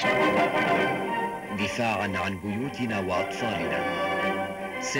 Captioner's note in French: Arab spoken audio